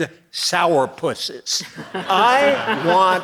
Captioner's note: audience laughing